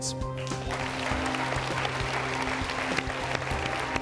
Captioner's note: audience claps